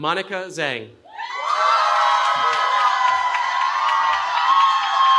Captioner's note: cheering